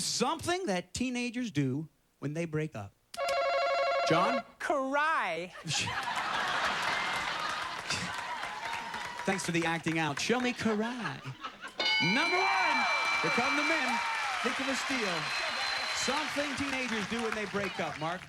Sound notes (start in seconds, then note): 5.5 laughter